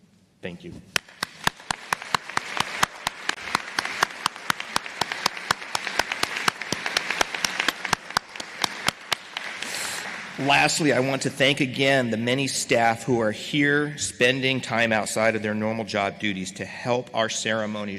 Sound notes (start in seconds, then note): 0.9 applause